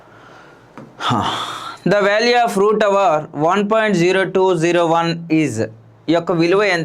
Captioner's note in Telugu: నిట్టూర్పులు